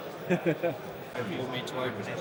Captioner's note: laughing